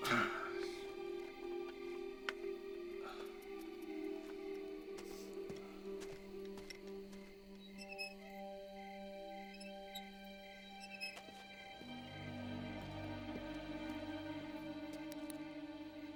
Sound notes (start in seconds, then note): 0.0 Chuck grunts; 7.9 swing squeaks; 12.9 suspenseful music